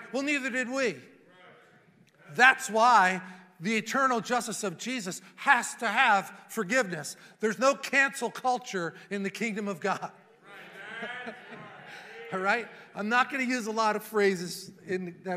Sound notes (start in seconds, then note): 10.5 laughs